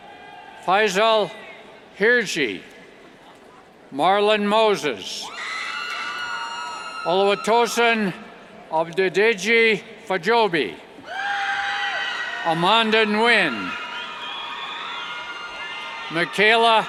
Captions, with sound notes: Faisal Hirji, Marlon Moses, (cheers) Oluwatosin Adedeji-Fajobi, (cheers) Amanda Nguyen, Michaela Gneco, (cheers)